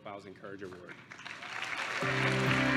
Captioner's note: applause